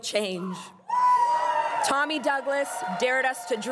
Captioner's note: crowd cheering and applauding